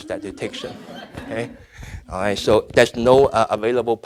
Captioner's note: audience laughing